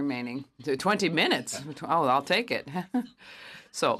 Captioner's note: speaking French